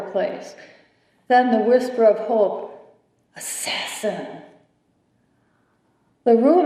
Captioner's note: whispering